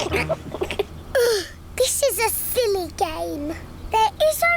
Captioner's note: groans; laughs